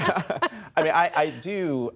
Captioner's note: laughter